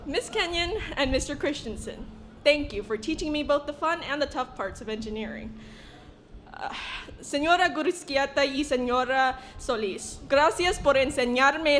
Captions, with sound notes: Miss Kenyan and Mr. Christiansen, thank you for teaching me both the fun and the tough parts of engineering. (speaking foreign language)